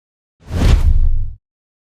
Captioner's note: swooshing